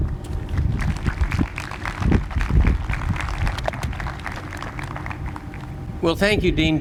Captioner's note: applause